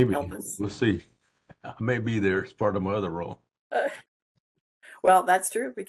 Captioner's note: laugh